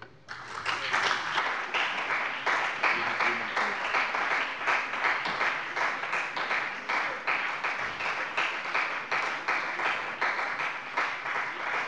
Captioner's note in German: Beifall bei dem BÜNDNIS 90/DIE GRÜNEN und der CDU